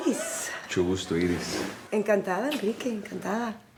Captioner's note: Enrique speaks in foreign language; Iris speaks in foreign language